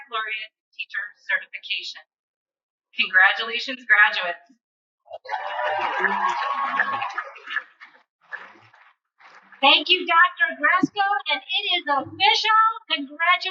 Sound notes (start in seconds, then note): 5.1 cheers and Applause